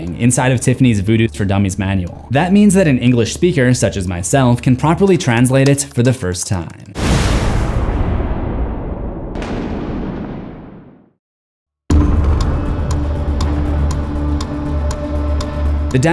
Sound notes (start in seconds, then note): 7.0 thunder clapping; 11.9 tense suspenseful music